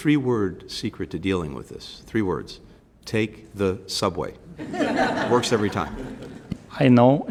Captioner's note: laughter